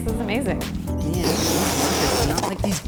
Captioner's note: balloon rubber stretching